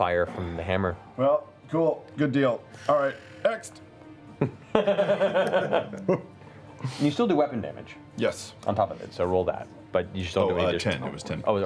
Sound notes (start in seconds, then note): 4.3 laughter